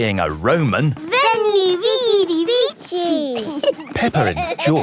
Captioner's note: laughing